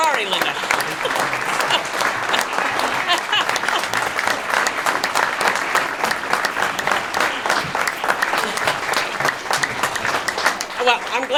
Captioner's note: applause